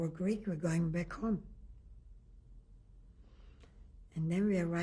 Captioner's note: pauses for 3 seconds